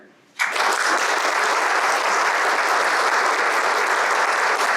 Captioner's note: audience applauds